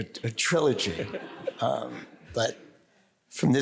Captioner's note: audience laughs